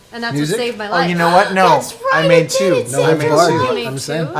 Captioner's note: gasps